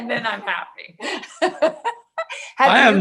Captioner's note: laughing